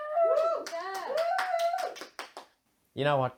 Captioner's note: cheering